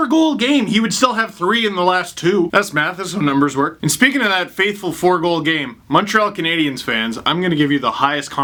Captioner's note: doubtful tone